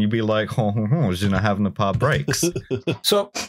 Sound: chuckles

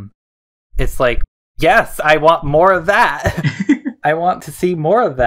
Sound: both laugh

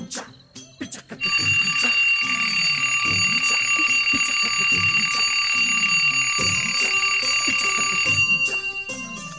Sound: alarm Ringing

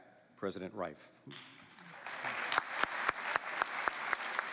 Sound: applause

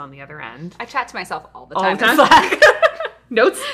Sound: laughing

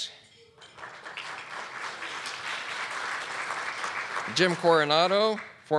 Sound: audience clapping

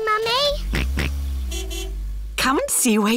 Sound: car horn honks; george oinks

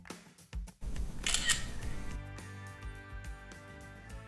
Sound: camera clicking

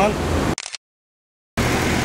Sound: camera shutter click

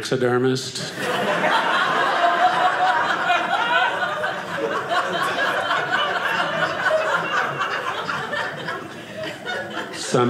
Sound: audience laughing

